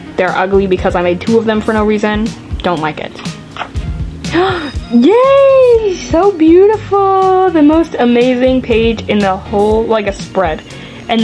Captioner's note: gasp